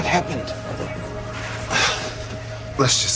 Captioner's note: Въздишки